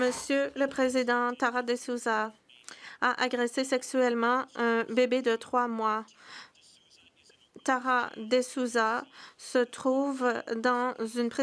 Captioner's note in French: voix de l'interprète